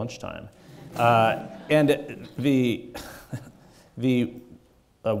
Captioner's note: chuckles